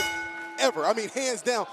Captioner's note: bell ringing